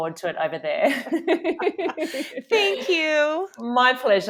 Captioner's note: both laughing